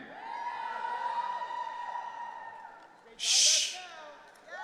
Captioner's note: audience cheering